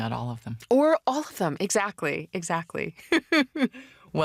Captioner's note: laughs